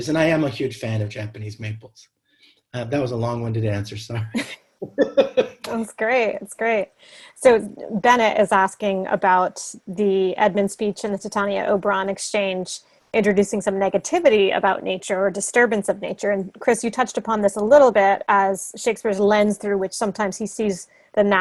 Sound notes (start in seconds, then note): 4.9 laughing